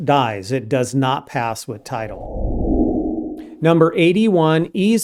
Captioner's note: whooshing